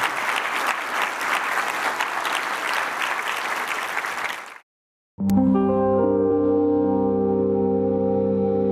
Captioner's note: applause